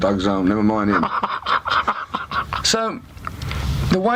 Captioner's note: interviewer laughs